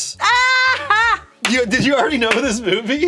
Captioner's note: laughs